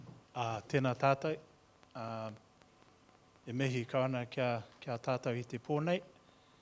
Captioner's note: speaking in Maori